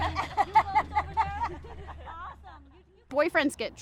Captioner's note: laughter